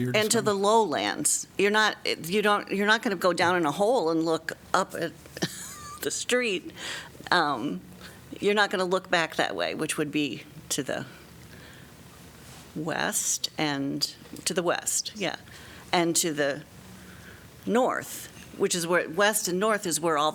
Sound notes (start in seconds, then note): 5.4 laughter